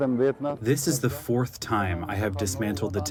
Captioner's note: through translator